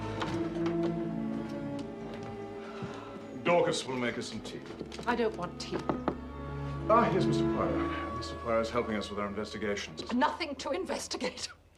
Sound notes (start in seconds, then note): 2.3 Menghela napas; 5.8 Mengetuk pintu